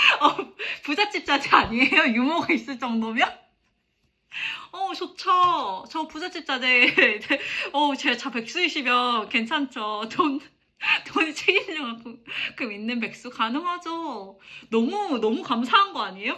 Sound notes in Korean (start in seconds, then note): 0.0 웃음; 6.8 웃음